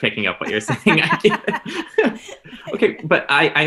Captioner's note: laughing